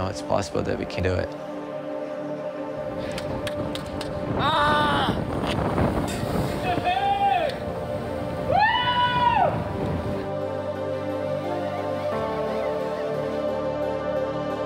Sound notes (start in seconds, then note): 6.8 cheering; 9.4 upbeat music continues playing